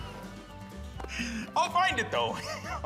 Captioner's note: laughs